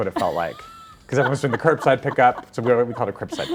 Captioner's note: laughing amusingly